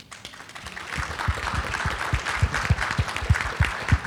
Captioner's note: audience applauding